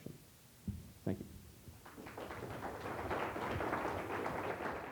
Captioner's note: applause